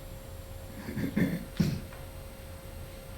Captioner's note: clears throat